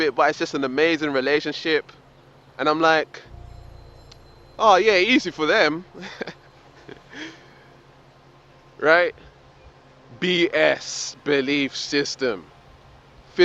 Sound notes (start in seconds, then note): 6.0 laughs